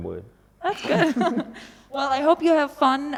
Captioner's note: lacht